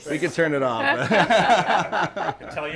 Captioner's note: group laughing